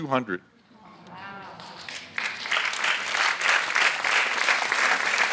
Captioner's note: audience applauds